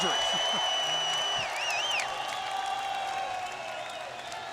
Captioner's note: crowd cheering